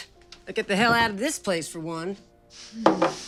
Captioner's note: scoffs